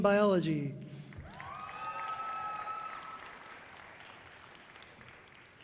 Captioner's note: audience cheering loudly